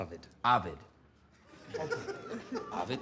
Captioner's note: laughter